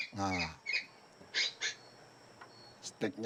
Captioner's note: bahasa Malaysia* spoken audio